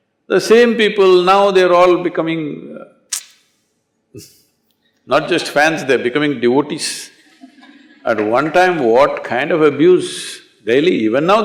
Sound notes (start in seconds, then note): 7.2 laughter